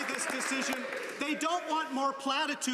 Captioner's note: some Applause